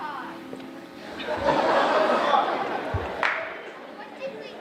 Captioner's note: audience laughing